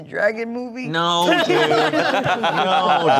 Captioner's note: everyone laughing